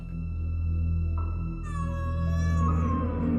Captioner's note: meowing